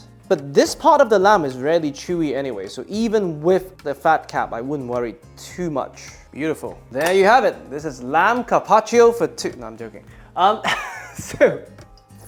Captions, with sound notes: But this part of the lamb is really chewy anyway, so even with the fat cap, I wouldn't worry too much. Beautiful. There you have it. This is lamb carpaccio for two. No, I'm joking. [chuckles]